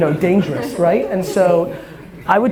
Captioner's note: crowd laughter